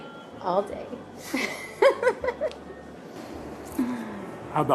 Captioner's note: laughs